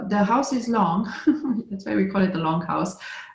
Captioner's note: laughter